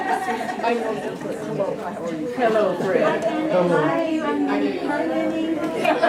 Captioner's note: audience greeting each other